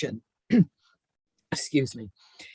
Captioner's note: clears throat